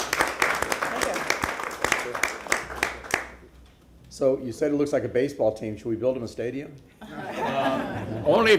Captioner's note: applause